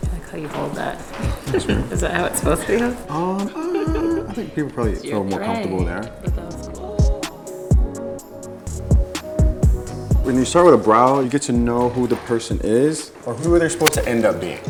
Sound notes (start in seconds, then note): 0.0 crew laughs; 0.7 laughs; 7.3 jazzy music